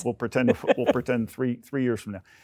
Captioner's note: laughs